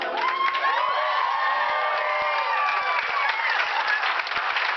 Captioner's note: cheers and clapping